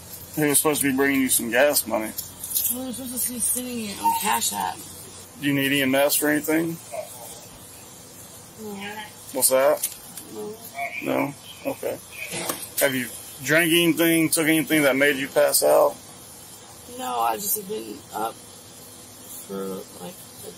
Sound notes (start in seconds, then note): 10.7 radio chatter